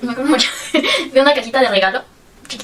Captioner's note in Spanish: risas